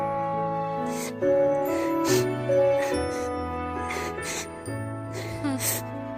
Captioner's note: Tommy weeps; sighs